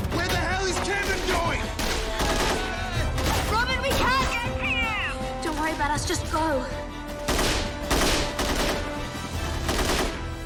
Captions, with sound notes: Where the hell is Kevin going?! Robyn, we can't get to you! Don't worry about us. Just go. (GUNFIRE CONTINUES)